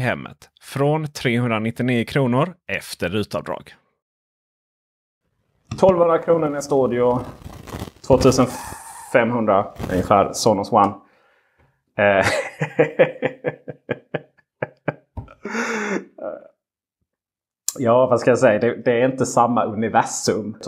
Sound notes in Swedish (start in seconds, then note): 12.2 Skrattar lite elakt